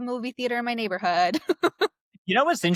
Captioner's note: laughs